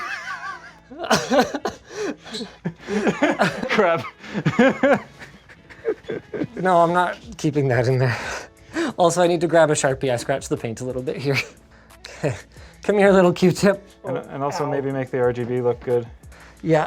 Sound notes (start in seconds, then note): 0.0 laughing